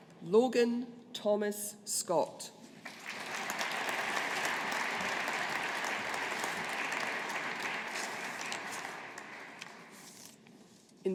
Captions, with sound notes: Logan Thomas Scott. (AUDIENCE APPLAUDING)